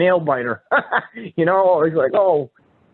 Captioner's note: laughing